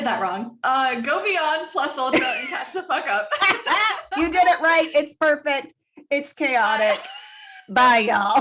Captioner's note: cackles